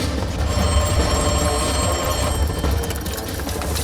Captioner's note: phone ringing